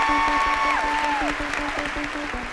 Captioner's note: cheering and applause